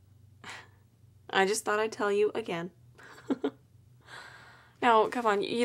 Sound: laughs

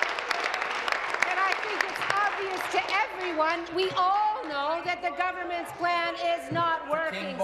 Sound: applause

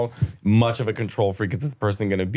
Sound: laughing

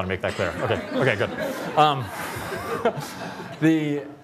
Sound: laughter

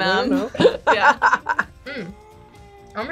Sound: laughs

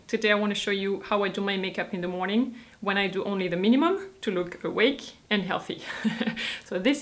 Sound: chuckles

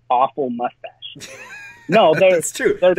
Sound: laughs

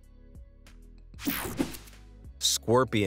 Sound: air whooshing

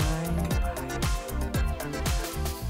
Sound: whispers

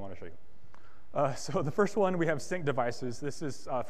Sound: chuckles

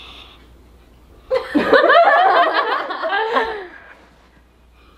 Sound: everyone laughs

